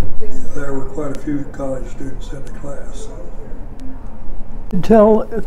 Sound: talking in background

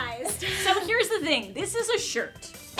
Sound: laughter

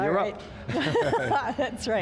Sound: laughs

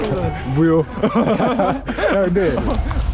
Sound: laughing

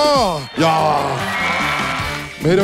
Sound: clap Clap Clap

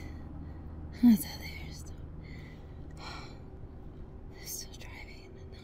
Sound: Janet speaks Spanish

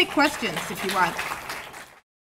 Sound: applause

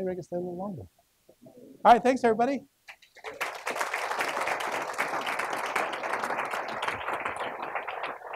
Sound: clapping

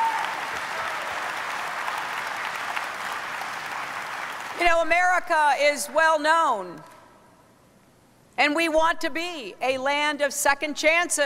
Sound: applause

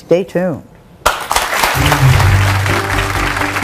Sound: audience applauds; upbeat music

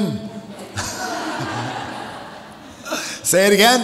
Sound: audience laughs

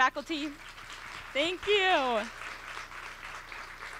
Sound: applause

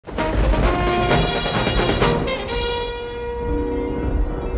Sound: dynamic music; thunder cracking; gentle harp music

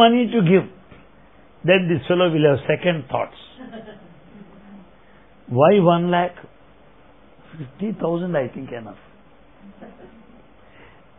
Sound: laughter

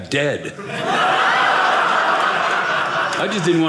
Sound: audience laughing

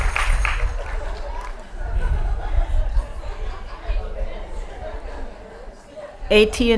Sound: applause; laughing

